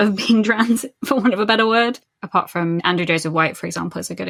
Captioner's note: laughing